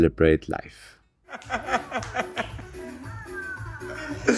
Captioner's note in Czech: Smích